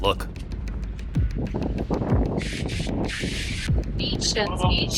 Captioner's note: wind whooshing